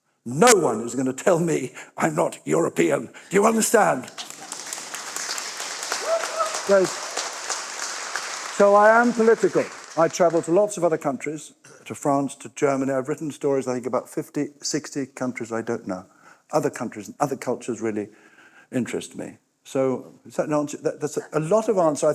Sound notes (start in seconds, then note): 6.5 applause